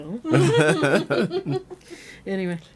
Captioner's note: laughing